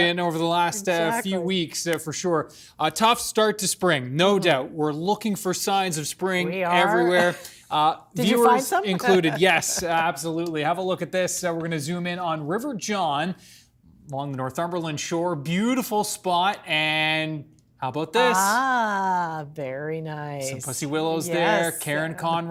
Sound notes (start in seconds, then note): 10.9 laughter